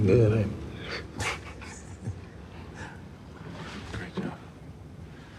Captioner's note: chuckling